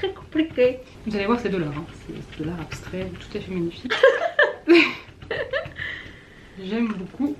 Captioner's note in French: rires